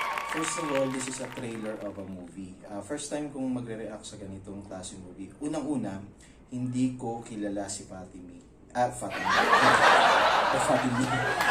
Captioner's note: laugh